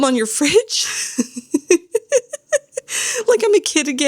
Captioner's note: laughs